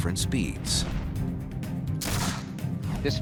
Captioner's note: gun shot